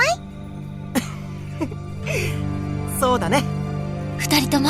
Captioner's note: chuckle